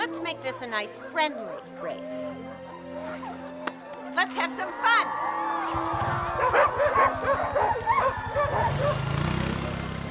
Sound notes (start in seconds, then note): 4.6 crowd cheering; 6.1 dogs barking